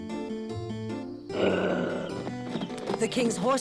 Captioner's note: growls